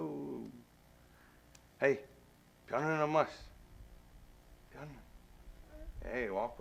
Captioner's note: speaks Menominee